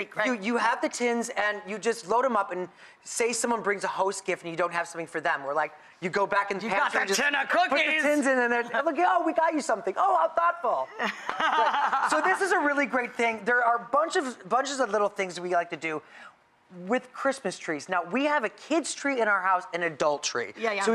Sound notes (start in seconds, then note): 10.9 Rachael laughs